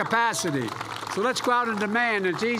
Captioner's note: applause